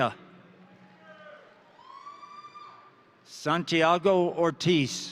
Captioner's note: crowd cheering; crowd applauding